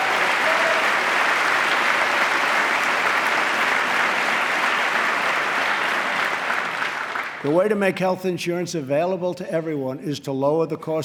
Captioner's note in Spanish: aplauso